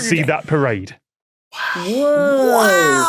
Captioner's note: whispers